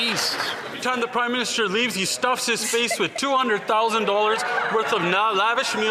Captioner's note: some Applause